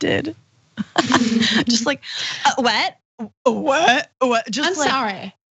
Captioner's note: laugh